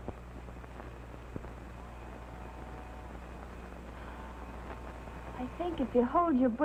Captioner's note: train whistle blowing